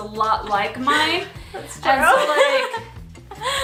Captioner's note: laughs